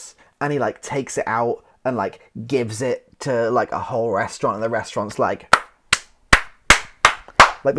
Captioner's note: clapping